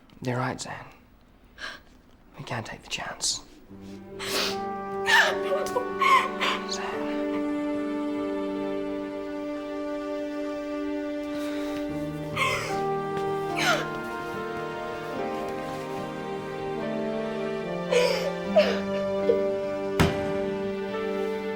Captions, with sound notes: You're right, Zan, we can't take the chance. (crying) Zan. (melancholy music)